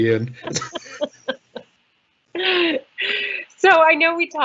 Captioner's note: laughing